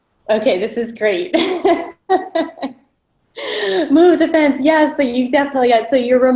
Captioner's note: laughter